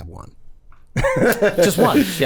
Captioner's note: Rob laughs